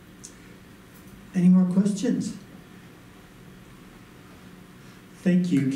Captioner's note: voiceover